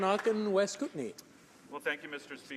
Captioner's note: applause